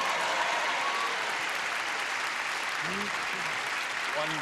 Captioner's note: clapping and cheering